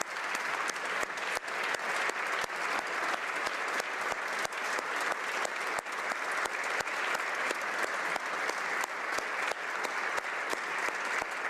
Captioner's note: applause